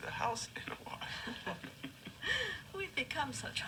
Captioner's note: laughing